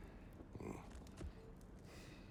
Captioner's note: grunt